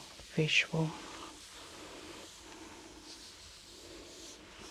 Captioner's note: inhales deeply